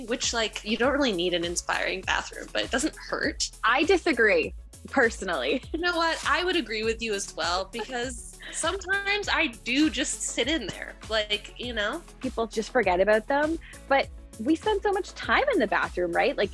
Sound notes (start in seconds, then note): 5.1 chuckles